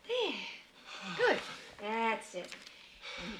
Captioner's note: sighs